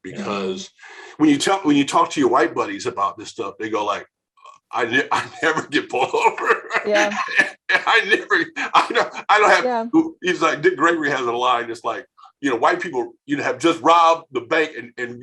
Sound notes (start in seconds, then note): 4.7 laughing